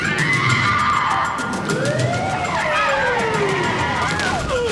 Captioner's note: sirens wailing